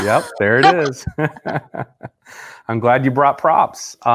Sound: laughing

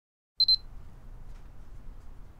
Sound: camera beeps

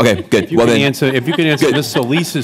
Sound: laughter

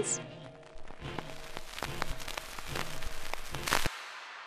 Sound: record static

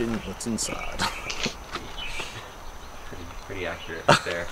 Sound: laughs

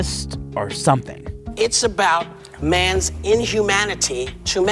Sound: soundbite of tv show, "the view"

